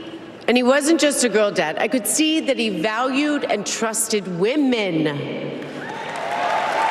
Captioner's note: applause